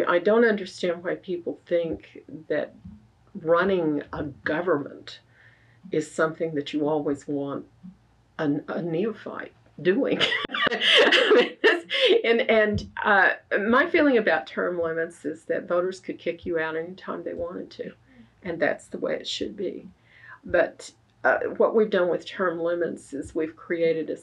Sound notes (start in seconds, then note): 10.1 laughs